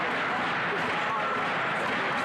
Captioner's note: chanting